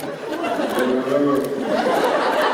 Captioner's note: heavily slurred